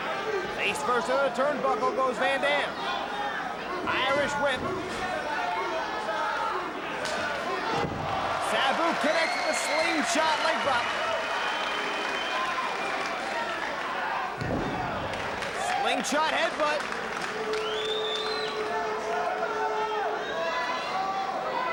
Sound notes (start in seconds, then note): 5.4 spectators chanting "Sabu!"; 11.0 spectators cheering and applauding; 17.2 spectators cheering and applauding